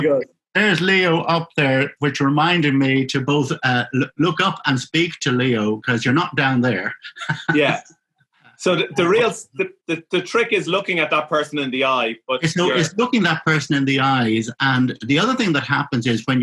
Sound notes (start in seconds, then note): 6.8 laughing